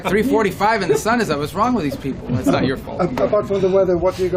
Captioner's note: laughter